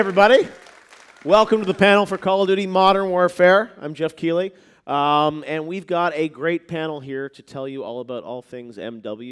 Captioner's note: applause